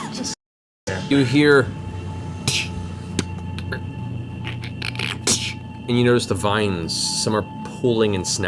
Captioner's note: snapping sounds